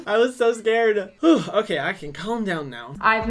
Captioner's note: sighs